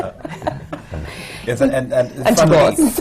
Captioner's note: laughs